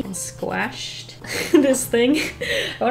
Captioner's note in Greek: Γέλια